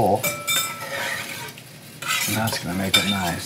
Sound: clanking

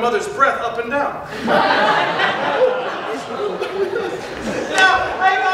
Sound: audience laughter

